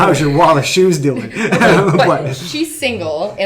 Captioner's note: laughing